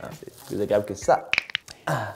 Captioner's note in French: craquement d'articulations x8